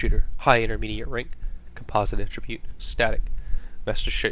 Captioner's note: Static